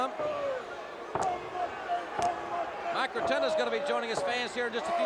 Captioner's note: crowd chatter